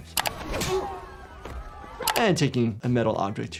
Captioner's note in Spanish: personaje gruñendo